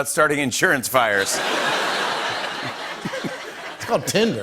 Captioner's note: laughter